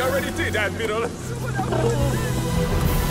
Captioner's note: he gags